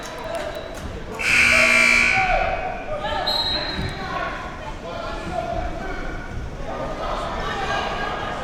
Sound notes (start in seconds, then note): 1.2 buzzer blaring; 3.2 athletes and spectators shouting